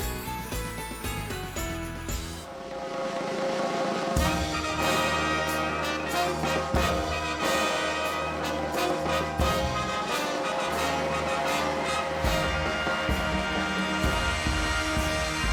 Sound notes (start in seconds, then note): 2.3 drumroll; 4.5 plays a regal fanfare; 11.2 cheers and applause